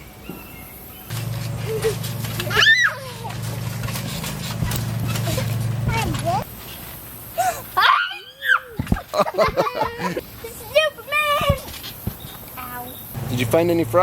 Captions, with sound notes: (children laughing) - Hiya! (laughing) - Superman!